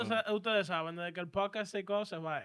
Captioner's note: speaking Spanish